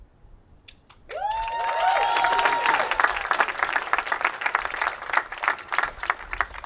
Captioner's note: attendees applauding and cheering